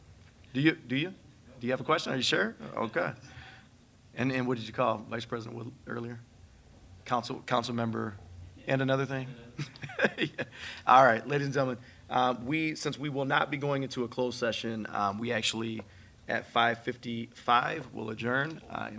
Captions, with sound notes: Do you, do you, do you have a question? Are you sure? Okay. And what did you call Vice President Wood earlier? Council member, and another thing. (laughs) All right, ladies and gentlemen, since we will not be going into a closed session, we actually at 5:55 we'll adjourn